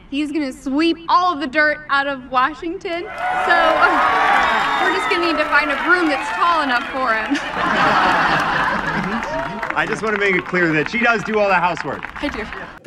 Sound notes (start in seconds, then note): 3.8 crowd cheering; 8.0 crowd laughing